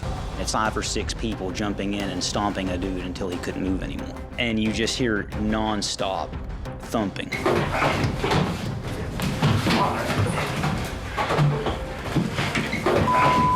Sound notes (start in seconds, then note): 7.3 thumping